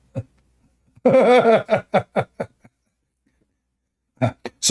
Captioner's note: Ketawa